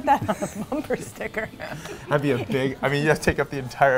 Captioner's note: laughs